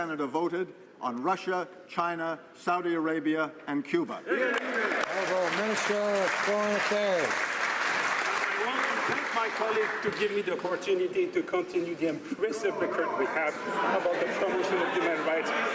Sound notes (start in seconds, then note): 7.8 some Applause